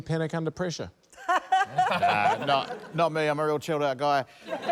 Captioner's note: laughter; laughter